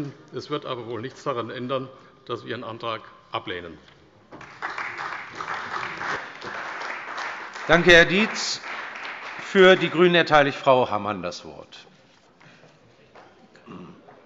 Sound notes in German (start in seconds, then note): 4.4 Beifall bei der CDU